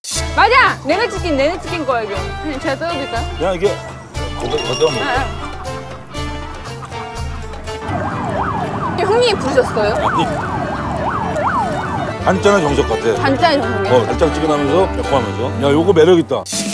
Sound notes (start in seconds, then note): 6.3 laughing; 7.7 sound of a siren